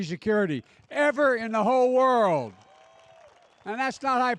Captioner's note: applause